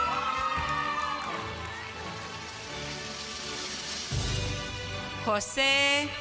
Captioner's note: applause